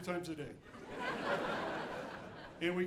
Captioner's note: audience laughing